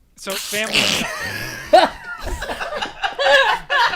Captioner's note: laughter